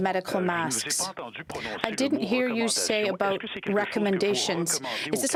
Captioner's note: speaking french